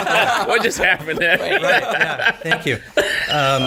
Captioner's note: all laughing